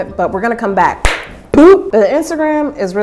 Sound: clapping

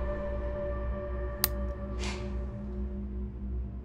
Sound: light switch clicks

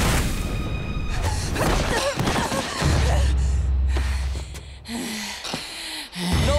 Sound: groaning

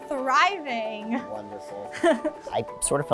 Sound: chuckles

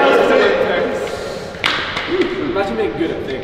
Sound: group laughing; group chattering

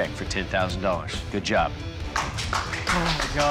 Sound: applause

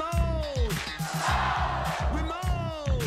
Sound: crowd

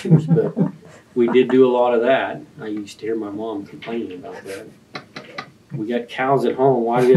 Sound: laughter

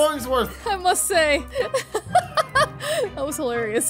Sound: laughs

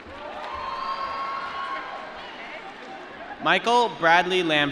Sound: applause

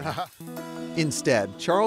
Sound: narrator laughs

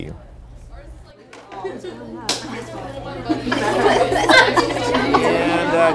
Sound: classroom noise

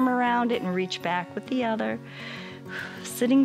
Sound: inhales

